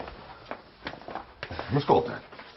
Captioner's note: sighs